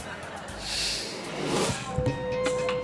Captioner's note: audience laughing; graphic whooshes; upbeat music